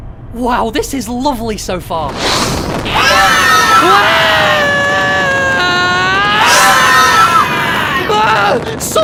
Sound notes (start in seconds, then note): 2.8 Golf Ball, Fries and Pen begin screaming; 2.8 two screams